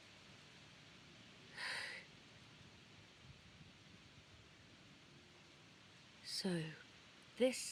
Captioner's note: nyx sighs